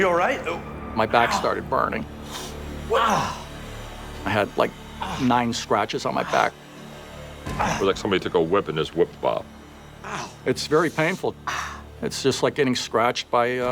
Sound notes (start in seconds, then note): 2.8 groaning